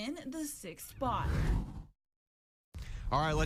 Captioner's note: air whooshes